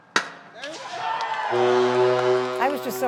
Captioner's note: cheering; horn blaring